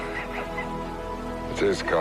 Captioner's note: laughs